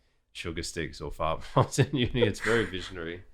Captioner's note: laughter